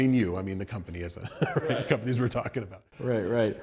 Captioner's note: laughter